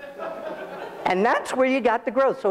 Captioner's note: audience laughs